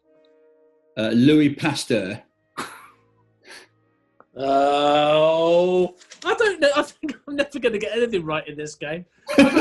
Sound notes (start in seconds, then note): 2.5 sniggering; 9.3 laughing